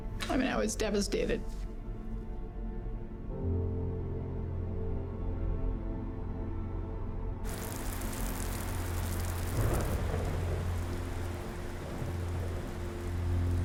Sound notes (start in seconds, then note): 7.4 rain falling; 11.7 distant thunder